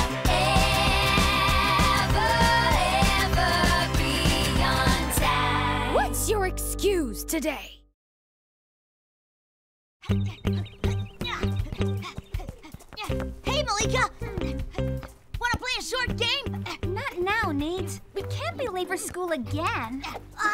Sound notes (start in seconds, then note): 10.1 bouncy music; 11.3 Nate panting